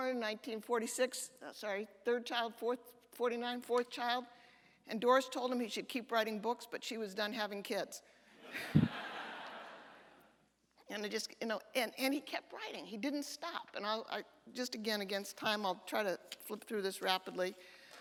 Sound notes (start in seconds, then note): 8.5 audience laughter